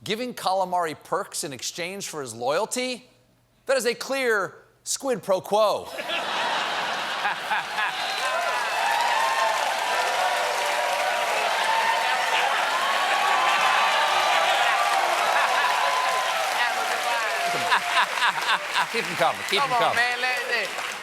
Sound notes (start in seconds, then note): 9.2 cheers and applause; 9.2 laughter